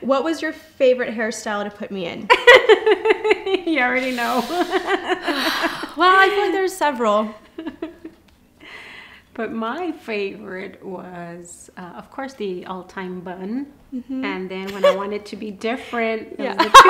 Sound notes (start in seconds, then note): 2.3 laughing; 5.2 sighs